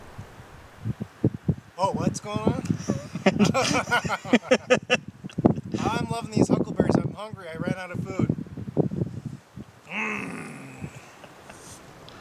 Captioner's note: laughing